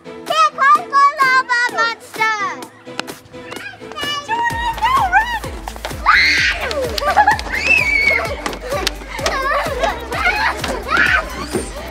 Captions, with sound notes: - Here comes the lava monster. - Jordyn and Tell run. - Run. [yells]